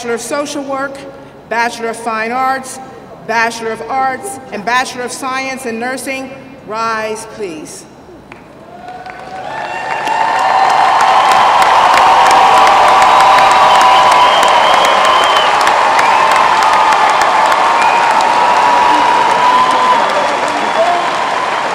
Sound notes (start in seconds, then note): 11.9 applause